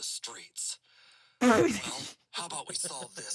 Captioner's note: laugh